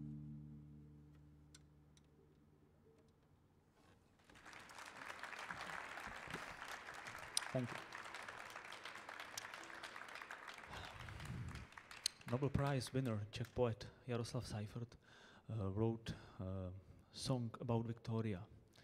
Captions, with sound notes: [audience applauding] Thank you. Nobel Prize winner Czech poet Jaroslav Seifert wrote song about Victorka,